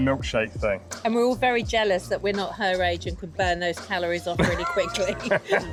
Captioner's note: laughter